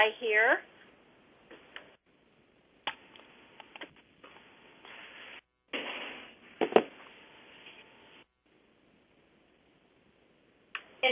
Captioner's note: pause